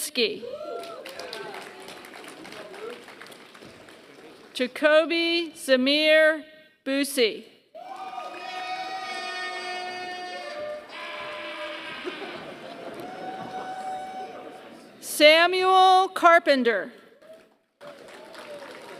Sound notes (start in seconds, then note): 0.7 applause; 7.8 applause; 17.1 applause